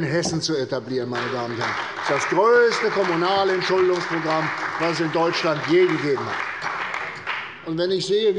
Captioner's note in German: Beifall bei der CDU und dem BÜNDNIS 90/DIE GRÜNEN